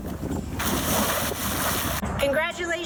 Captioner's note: splash